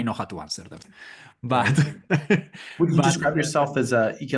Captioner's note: laugh